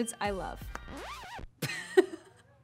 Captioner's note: record scratching; laughing